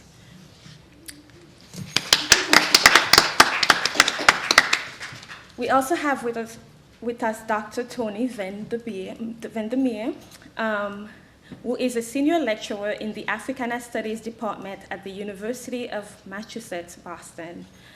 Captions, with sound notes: (audience applauding) We also have with us Dr. Tony Van Der Meer who is a senior lecturer in the Africana Studies department at the University of Massachusetts, Boston.